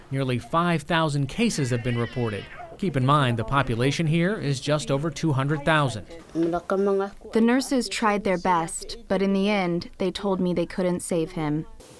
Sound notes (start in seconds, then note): 7.3 through translator